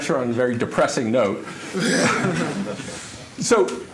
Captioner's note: laughter